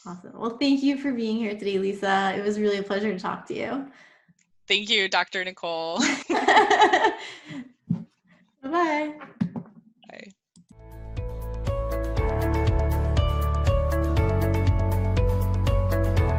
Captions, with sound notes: - Awesome, well, thank you for being here today, Lisa. It was really a pleasure to talk to you. - Thank you, Dr. Nicole. (laughing) - Bye bye. - Bye. (gentle music)